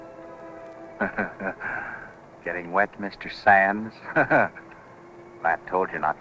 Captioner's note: laughs